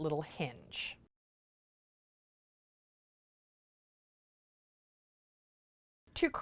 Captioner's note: no Sound Present